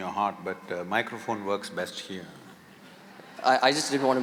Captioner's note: laughter